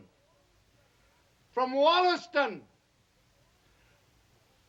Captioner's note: shouting